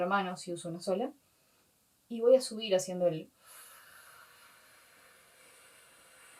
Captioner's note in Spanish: soplido